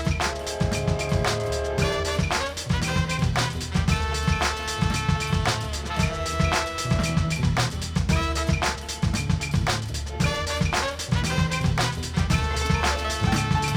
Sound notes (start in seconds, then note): 0.6 train whistle